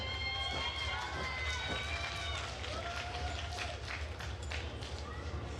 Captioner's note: attendees cheering and applauding